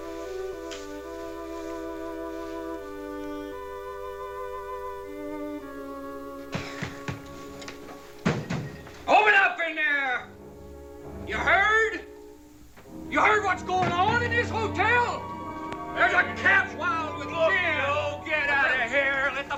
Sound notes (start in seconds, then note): 6.6 banging on door